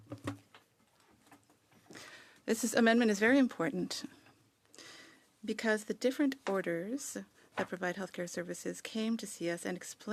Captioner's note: speaking French